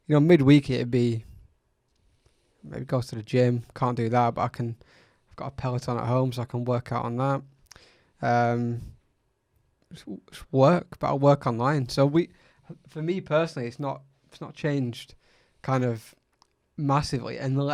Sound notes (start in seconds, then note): none